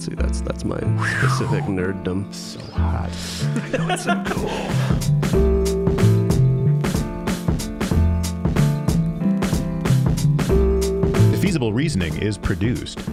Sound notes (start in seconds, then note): 3.2 laughing; 5.3 mellow, funky piano music